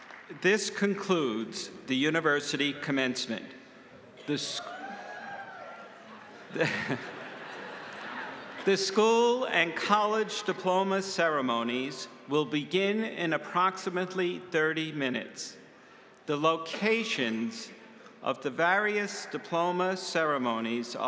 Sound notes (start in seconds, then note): 6.1 audience cheering; 7.5 laughs